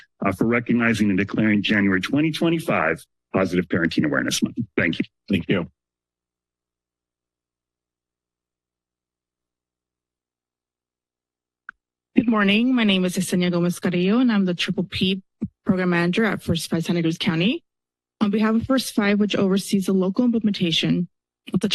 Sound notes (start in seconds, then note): 6.2 silence